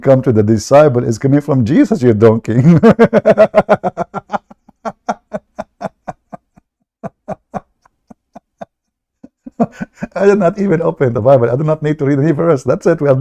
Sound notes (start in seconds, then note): 2.5 Ketawa